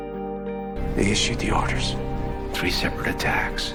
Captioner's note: voiceover